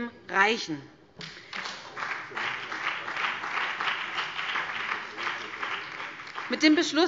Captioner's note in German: Beifall BÜNDNIS 90/DIE GRÜNEN